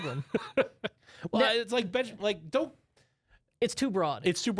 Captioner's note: laughs